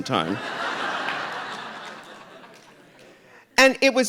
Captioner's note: audience laughing